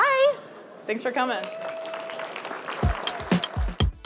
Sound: applause

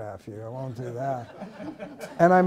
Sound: laughter

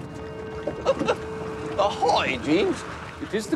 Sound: chuckles

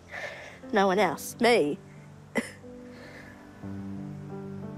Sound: chuckles warmly

